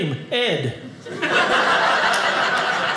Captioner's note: audience laughing